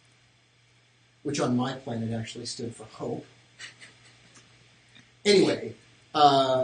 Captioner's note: chuckling